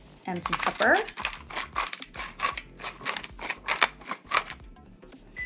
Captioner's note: grinder rattling